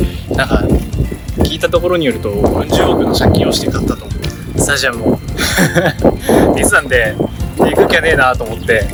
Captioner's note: laughs